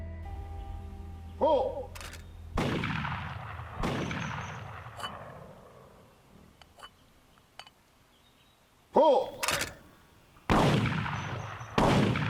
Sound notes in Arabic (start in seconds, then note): 2.5 إطلاق نار; 5.0 أصوات قعقعة; 9.2 صوت النقر; 10.4 إطلاق نار